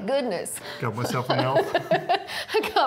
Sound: Natasha laughing

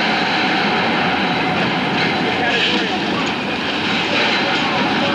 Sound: cargo crashing

